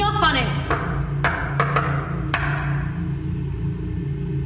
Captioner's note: knocking on door